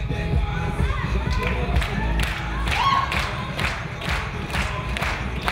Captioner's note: clapping in unison